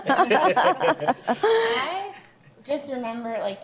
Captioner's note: everyone laughs